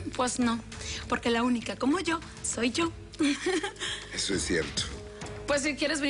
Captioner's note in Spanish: Ríe